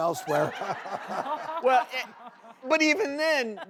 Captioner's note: audience laughs